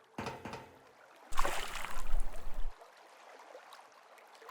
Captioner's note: loud splash